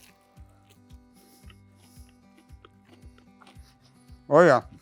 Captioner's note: sandwich crunches